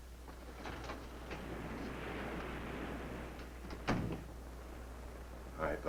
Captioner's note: waves crashing nearby